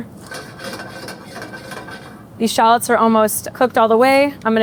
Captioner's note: pan clinking